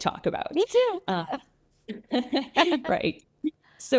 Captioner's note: both chuckle